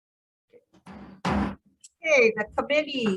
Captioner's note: gavel bangs